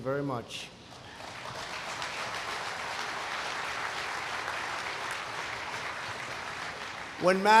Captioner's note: applause